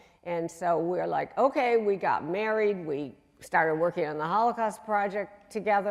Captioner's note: none